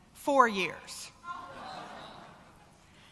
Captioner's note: crowd noise